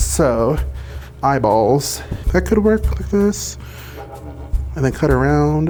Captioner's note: sewing machine whirring